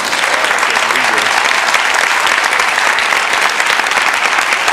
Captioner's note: audience clapping